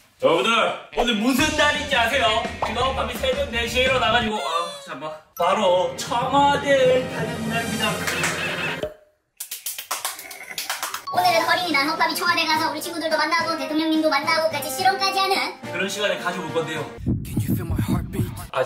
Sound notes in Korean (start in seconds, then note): 8.0 박수